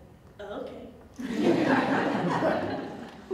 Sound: audience Laughter

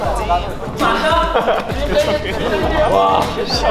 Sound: almost crying

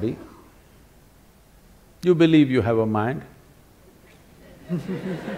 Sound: laughter

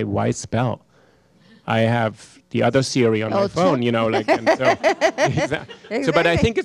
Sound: Hustvedt laughs

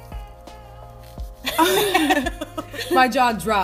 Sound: laughter

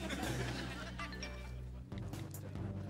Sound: chiming

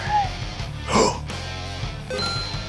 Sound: intense music; gasps; Pokedex chimes

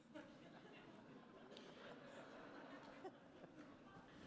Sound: audience laughing

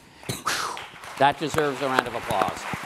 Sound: applause

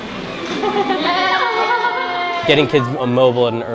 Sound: laughter

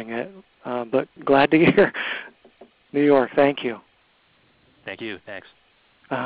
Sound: laughs

